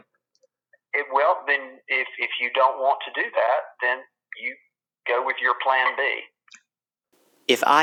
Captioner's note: on phone